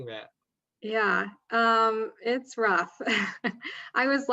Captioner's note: chuckling